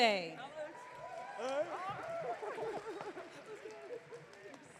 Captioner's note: audience cheering